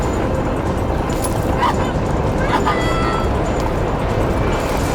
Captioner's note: Alison screaming